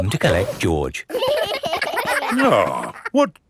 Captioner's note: giggling